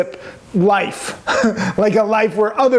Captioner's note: laughs